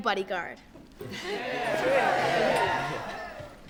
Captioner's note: cheering